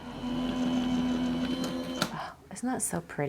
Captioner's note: machine whirs